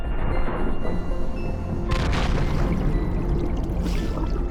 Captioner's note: creaking